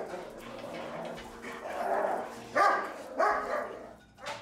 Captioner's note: barking